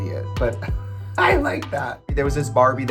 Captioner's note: laughs